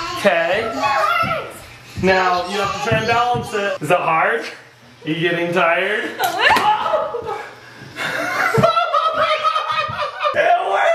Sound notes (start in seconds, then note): 6.2 yelling; 8.0 laughing